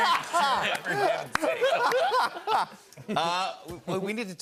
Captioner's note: laughter